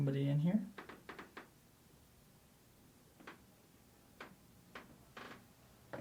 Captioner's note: floorboards creaking